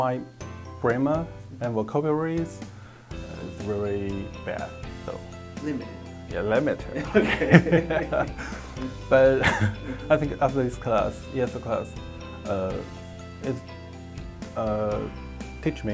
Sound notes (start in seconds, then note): 7.0 laughing